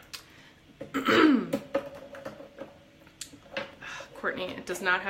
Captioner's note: clears throat